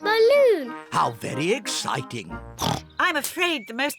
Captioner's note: oinks